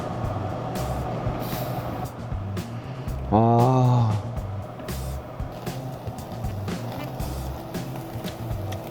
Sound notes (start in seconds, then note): 1.4 sniffing